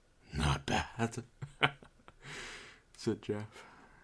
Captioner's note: cringe joker laugh